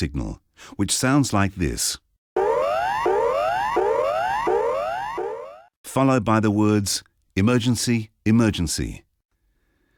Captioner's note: emergency Warning Signal is Playing